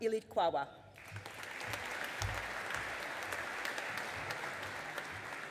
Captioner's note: audience applauding